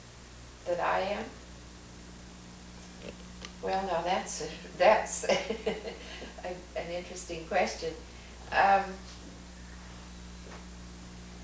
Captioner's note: laughs